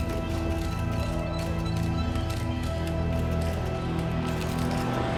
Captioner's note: sounds of photos being taken